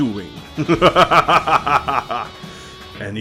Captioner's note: more evil laughing